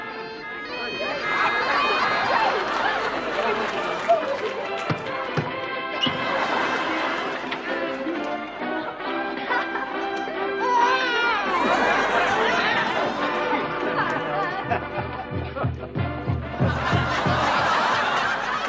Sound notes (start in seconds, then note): 0.0 bagpipes playing; 10.6 baby crying; 15.4 native American drumming